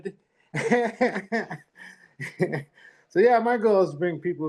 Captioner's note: laughs